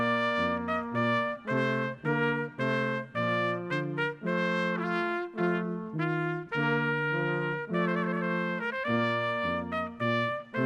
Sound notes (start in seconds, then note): none